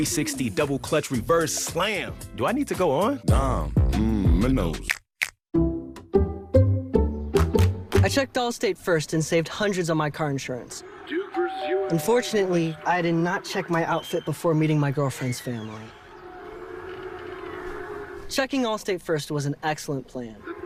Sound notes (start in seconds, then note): 11.3 bell rings; 16.0 football on TV